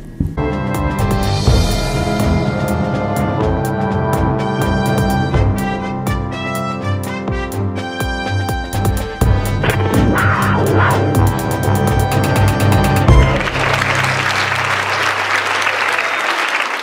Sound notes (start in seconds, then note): 9.6 wildcat Roar; 13.1 applause